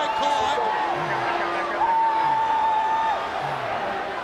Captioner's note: crowd cheering